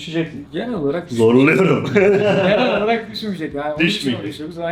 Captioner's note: laughs